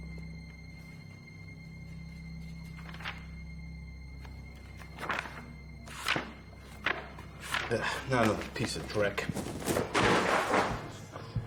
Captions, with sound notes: (pages flipping) - Not another piece of brick.